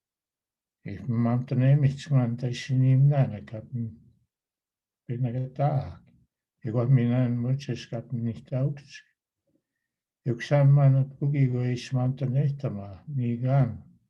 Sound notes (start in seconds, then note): 7.9 foreign language